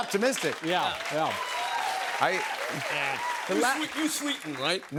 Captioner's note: cheers and applause